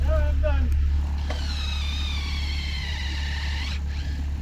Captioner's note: drill buzzing